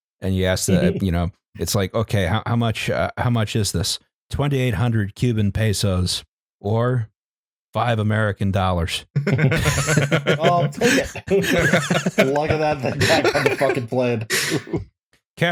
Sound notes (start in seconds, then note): 9.1 laughter